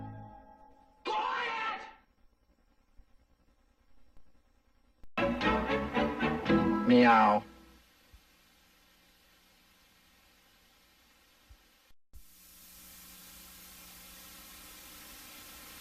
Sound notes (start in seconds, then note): 2.0 silence; 8.6 VHS static